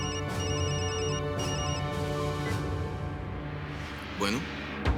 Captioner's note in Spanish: Suena el teléfono